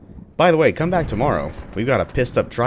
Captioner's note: thunder